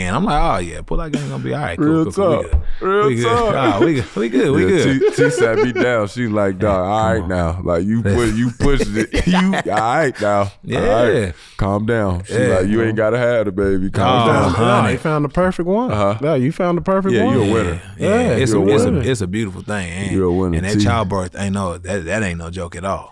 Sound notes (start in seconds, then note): 2.8 laughs